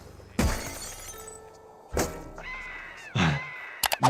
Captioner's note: glass smashes